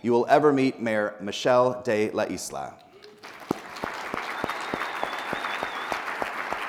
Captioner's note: people applauding